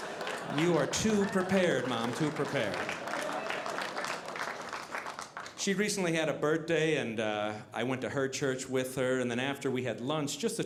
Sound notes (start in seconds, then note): 0.0 audience laughing; 3.4 audience applauding